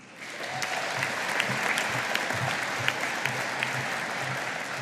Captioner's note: audience applauding